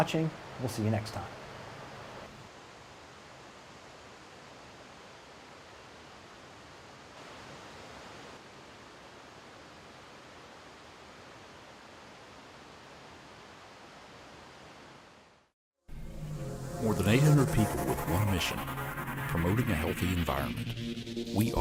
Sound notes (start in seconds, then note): 2.2 wind and forest sounds